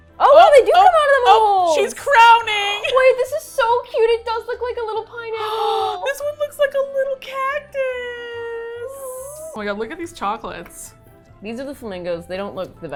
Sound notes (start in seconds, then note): 5.4 gasps